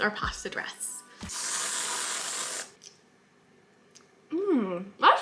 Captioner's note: whipped cream spraying